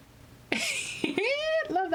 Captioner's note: laughs